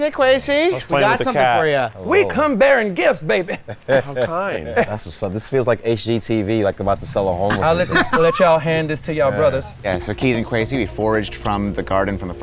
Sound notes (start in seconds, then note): 3.4 laughs; 7.4 laughs